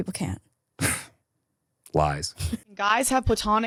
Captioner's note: scoffs